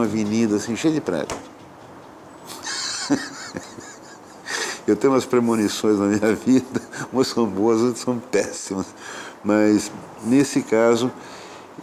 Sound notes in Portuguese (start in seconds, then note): 0.0 Instrumentos de cordas e ruídos instrumentais; 6.3 Risos